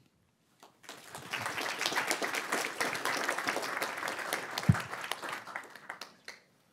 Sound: applause

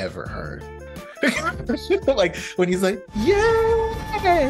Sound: laughs

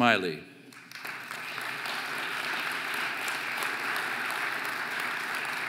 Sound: audience applauding

